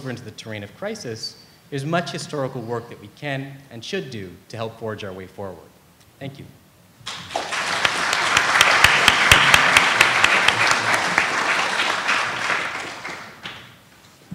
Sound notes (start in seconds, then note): 7.0 applause